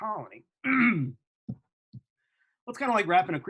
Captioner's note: throat clearing